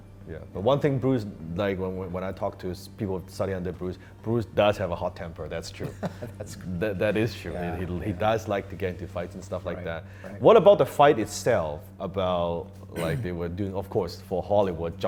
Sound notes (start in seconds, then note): 5.8 laughs